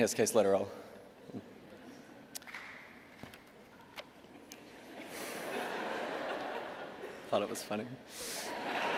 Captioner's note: laughter